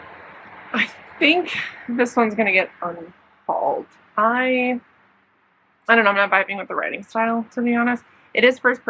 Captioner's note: laughs